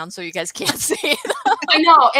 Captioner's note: laughs